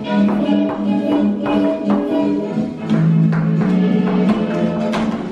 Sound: marker tapping

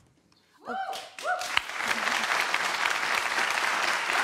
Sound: audience applause

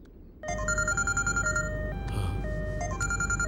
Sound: phone rings

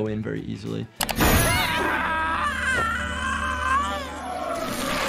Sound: monster screeching

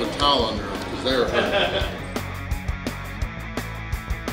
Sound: man laughing; upbeat rock music

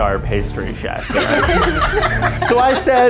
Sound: laughs

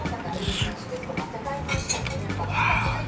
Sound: slurps

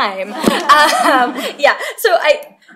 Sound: laughter

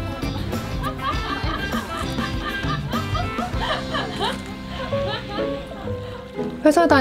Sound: laugh

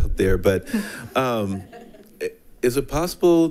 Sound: people chuckle

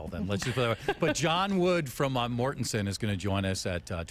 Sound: laughter

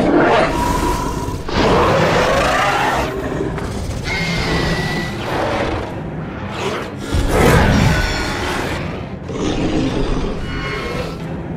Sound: screeching and roaring sounds

